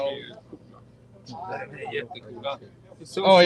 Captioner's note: speaking Swedish